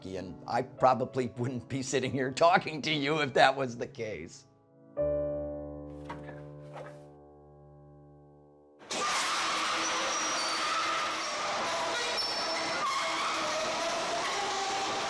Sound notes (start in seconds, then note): 9.1 door squeaks